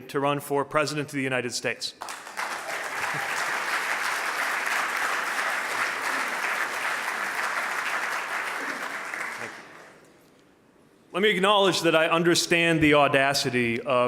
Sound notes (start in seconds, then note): 2.0 audience applauding